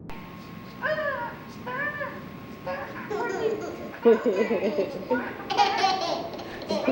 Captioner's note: laughter